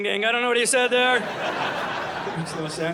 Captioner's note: audience laughing